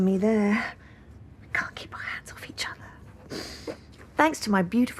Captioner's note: she inhales